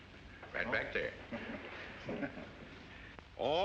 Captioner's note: Mr. WILSON CHUCKLES